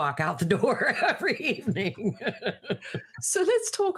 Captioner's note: laughing